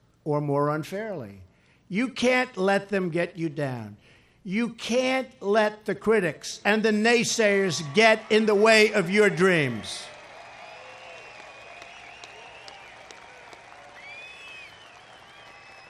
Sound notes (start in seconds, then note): 9.7 applause